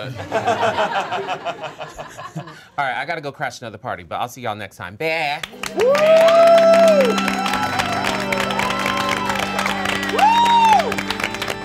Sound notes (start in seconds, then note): 0.0 all laughing; 5.5 all cheering